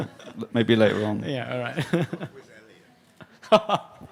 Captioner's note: laughter